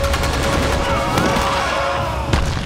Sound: screaming

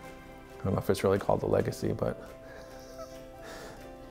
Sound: instrumental music; laughs

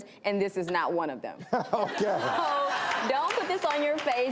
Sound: audience Laughter

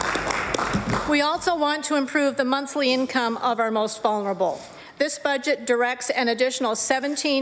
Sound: applause

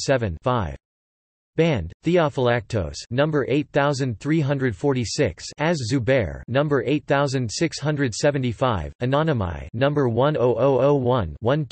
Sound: in German

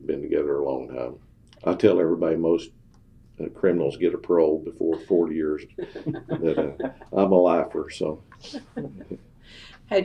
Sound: laughs

